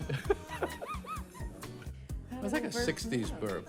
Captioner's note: both laugh